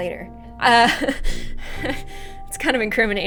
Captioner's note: nervous laughter